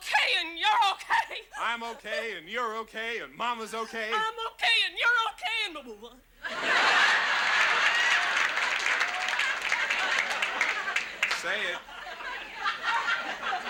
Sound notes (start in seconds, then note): 6.9 audience laughs